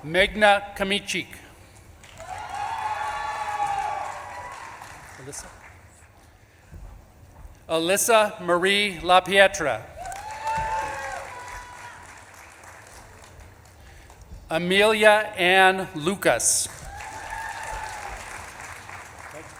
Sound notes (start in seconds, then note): 1.8 audience claps and cheers; 9.9 audience claps and cheers; 12.0 audience member shouts; 15.7 audience claps and cheers